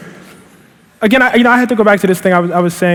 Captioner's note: laughing